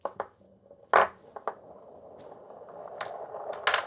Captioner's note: marbles rolling